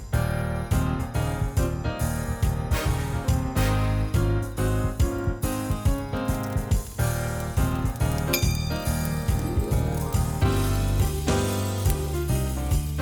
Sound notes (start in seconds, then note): 5.7 fire crackling; 8.2 bell dinging